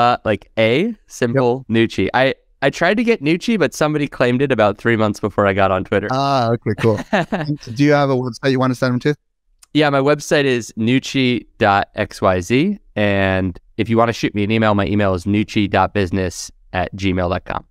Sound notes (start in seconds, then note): 7.8 laughs